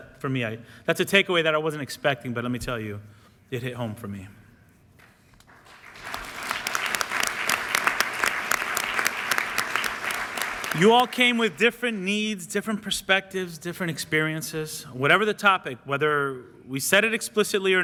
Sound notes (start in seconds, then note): 5.4 applause